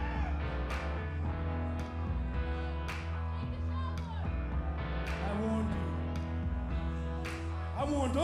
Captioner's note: crowd chatter